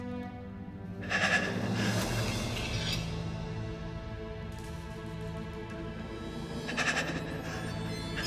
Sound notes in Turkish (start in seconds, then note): 1.0 Derin nefes alıyor; 6.5 Derin nefes alıyor